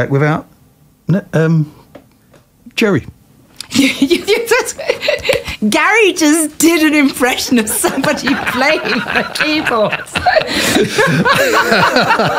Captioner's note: laughter